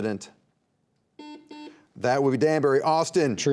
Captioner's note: buzzer beeping